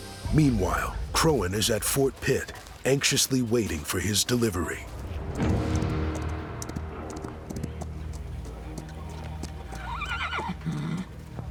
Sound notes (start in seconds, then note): 5.4 hoofbeats; 9.8 horse whinnies